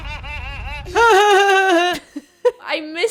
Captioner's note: mocking laughter; laughter